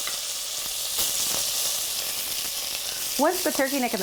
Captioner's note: sizzling